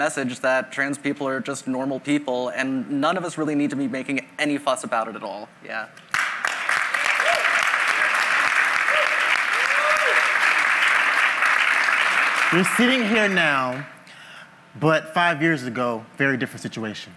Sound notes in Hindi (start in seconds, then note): 6.5 वाहवाही